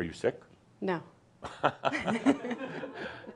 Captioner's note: they chuckle